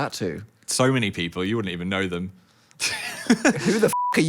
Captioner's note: laughs; beep